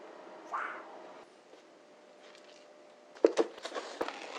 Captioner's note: a mukbang YouTuber's signature yell